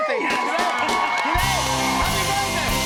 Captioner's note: cheers and applause